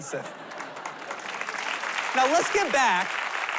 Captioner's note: applause